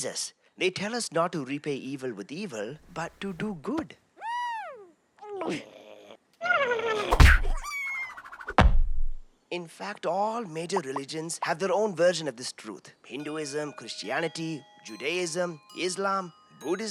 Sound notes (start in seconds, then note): 4.2 squeals excitedly; 5.4 gulping